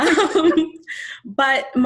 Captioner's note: both laughing